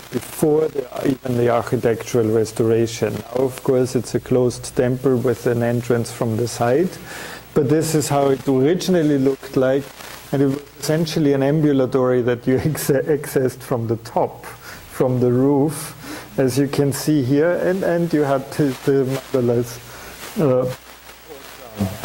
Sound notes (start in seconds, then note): 14.3 chuckles; 20.4 audio static